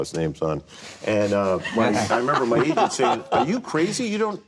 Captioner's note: laughing